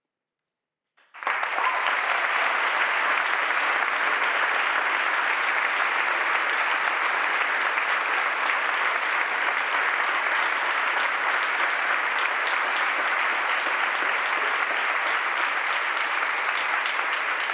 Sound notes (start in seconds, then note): 1.3 audience applauding